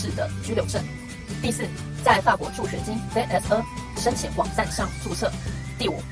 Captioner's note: in french